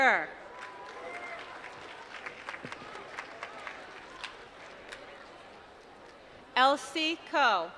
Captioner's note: applause